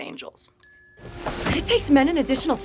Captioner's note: graphic chiming